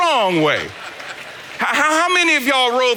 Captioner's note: congregation laughing